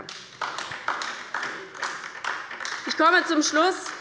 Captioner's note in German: Beifall bei der LINKEN